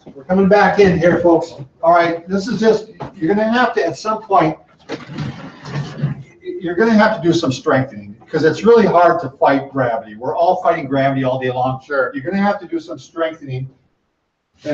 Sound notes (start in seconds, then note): 4.8 table scraping